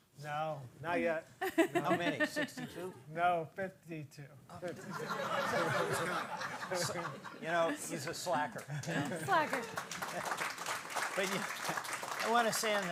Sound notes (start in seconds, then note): 4.8 audience laughs; 9.0 audience applauds